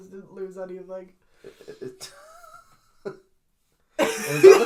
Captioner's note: laughs; laughs at absurdity; mental break noises; laughs